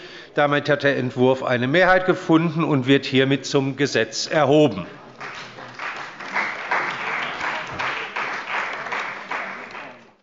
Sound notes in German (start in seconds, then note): 5.0 Beifall bei der CDU und dem BÜNDNIS 90/DIE GRÜNEN